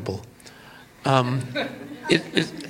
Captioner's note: laughter